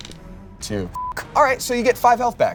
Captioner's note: beep